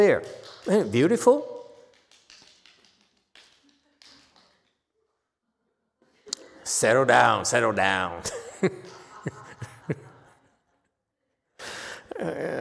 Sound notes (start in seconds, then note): 2.8 laughs